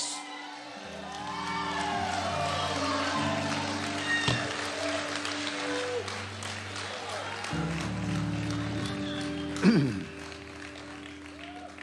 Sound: congregation cheering

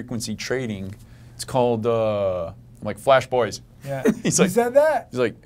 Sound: laughter

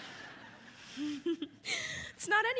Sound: Connie laughs

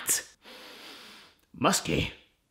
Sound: sniffs

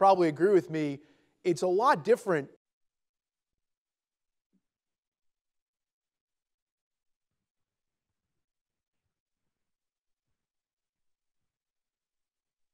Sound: silence

